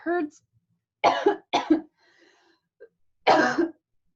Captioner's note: coughs